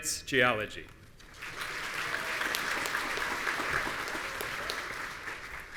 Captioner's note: audience applauding